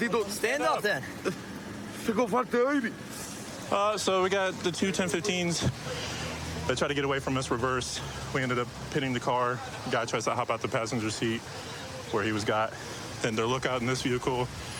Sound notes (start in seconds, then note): 1.6 speaking spanish